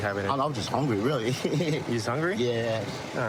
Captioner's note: laughing